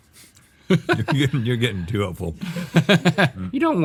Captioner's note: laughing